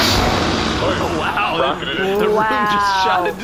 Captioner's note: rocket launching